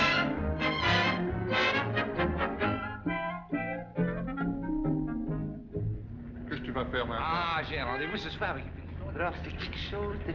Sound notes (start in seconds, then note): 6.1 conversing In French